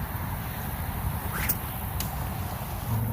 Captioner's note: sling whips; splash